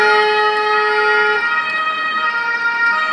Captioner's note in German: Hupen; Sirene